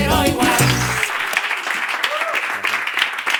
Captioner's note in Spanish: Aplausos